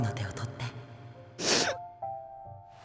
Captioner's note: sniffle